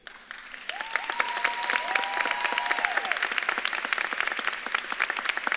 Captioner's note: audience claps and cheers